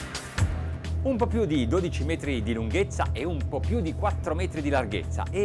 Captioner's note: man speaks in foreign language